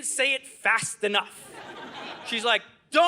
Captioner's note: audience laughing